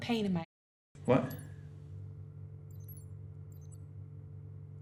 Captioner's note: watch beeping